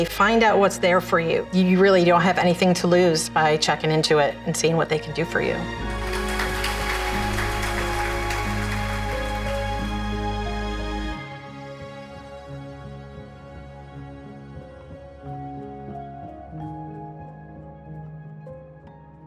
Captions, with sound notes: Find out what's there for you. You really don't have anything to lose by checking into it and seeing what they could do for you. (audience claps) (mellow music)